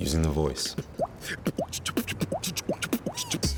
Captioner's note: beat boxing